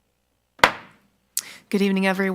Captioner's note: gavel clacks